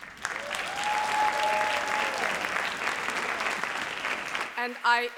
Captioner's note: audience cheers and applauds